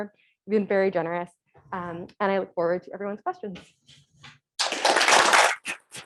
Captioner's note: applause